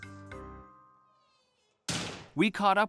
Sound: door slams

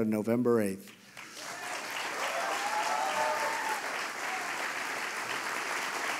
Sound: applause

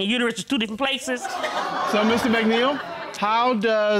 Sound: audience laughing

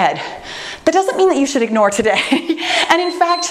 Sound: laughs

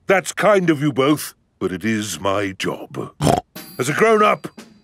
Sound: snorts

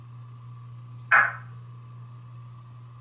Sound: cluck

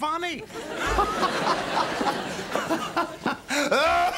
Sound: <i>laughing; <i>coughing

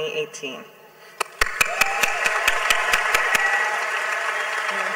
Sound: clapping

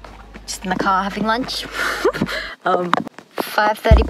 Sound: laughs

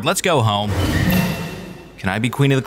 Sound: portal hums

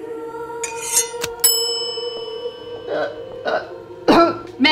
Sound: spatula scraping; bell ringing; Catherine choking

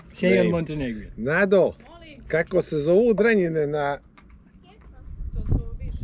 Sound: man speaks foreign language

